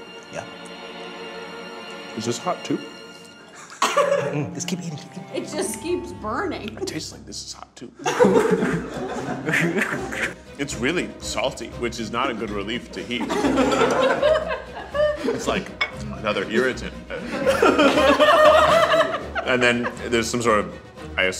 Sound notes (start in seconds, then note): 3.4 group laughs; 8.0 group laughs; 13.0 group laughs